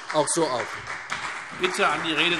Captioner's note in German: Beifall CDU und BÜNDNIS 90/DIE GRÜNEN